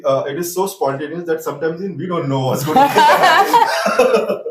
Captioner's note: laughs